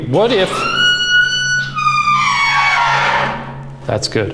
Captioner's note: door squeaking